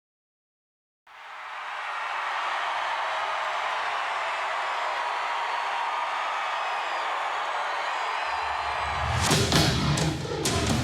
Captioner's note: applause